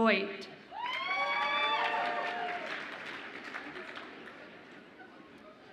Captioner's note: audience applauds and cheers